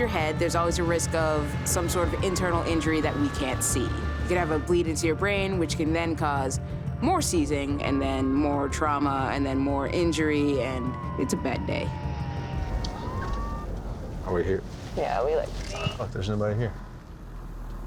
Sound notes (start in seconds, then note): 12.3 sirens